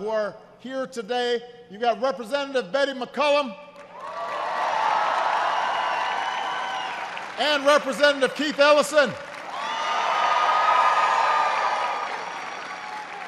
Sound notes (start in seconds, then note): 3.7 applause